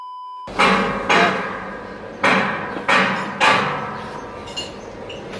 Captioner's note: beep; very loud, hammering on metal